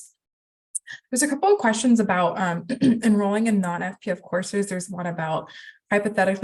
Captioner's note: clears throat